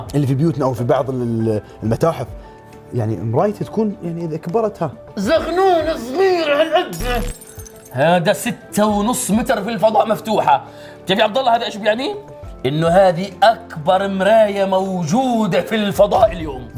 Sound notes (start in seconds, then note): 5.1 aggressively